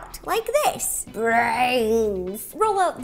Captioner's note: in zombie-like voice